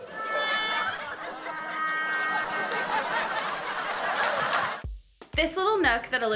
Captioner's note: audience laughs; playful music